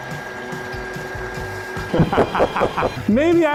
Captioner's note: laughs evilly